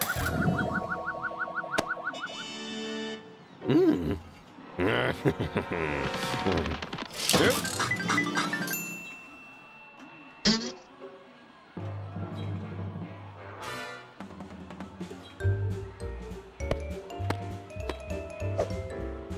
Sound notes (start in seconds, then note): 4.5 cackles; 8.6 chimes